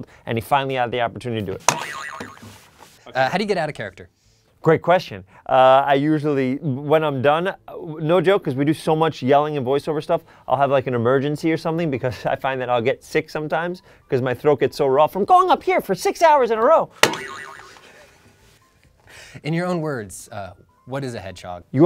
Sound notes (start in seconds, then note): 1.7 boing sound; 17.0 boing sound